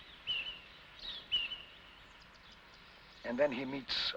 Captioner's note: birds chirping